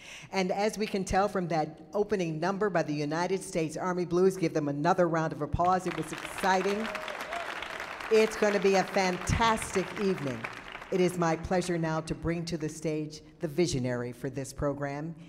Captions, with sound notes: And as we can tell from that opening number by the United States Army Blues, give them another round of applause, it was exciting. (audience applauding) It's gonna be a fantastic evening. It is my pleasure now to bring to the stage the visionary for this program.